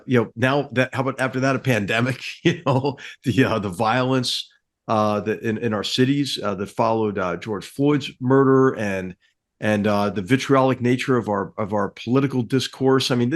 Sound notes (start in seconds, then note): 2.3 laugh